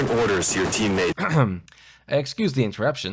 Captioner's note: clears throat